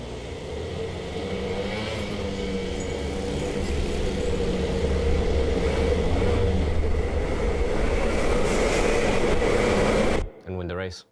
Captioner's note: engine rumbling crescendo